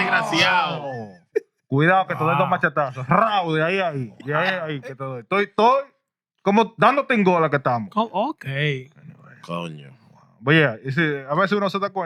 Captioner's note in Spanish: Hablando en idioma extranjero